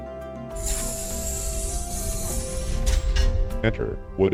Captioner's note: door sliding open